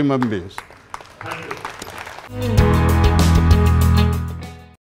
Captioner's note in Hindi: तालियां